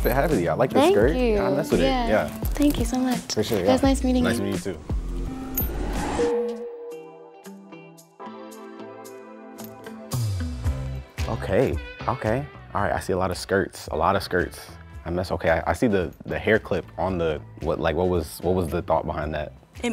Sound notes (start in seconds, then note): 6.0 text dings; 7.2 gentle music